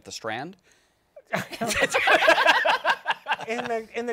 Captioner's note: laughter